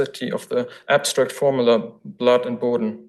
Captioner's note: foreign language